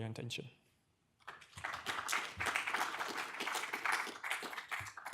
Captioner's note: audience claps